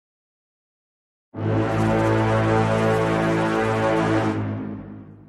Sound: war Horn

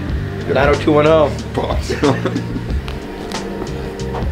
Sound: laughter

